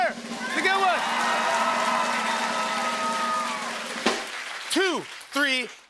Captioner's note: cheers and applause